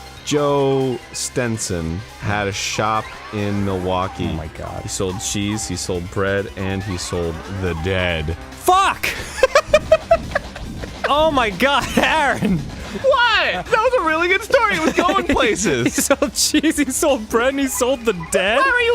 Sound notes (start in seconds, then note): 9.0 laughs; 14.4 giggling